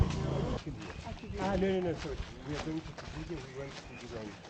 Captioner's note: background chatter